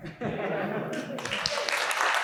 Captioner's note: audience laughing; audience clapping